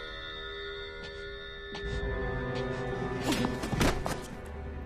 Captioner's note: groans